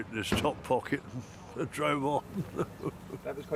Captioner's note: laughs